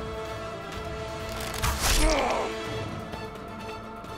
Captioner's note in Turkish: Ok fırlatma sesi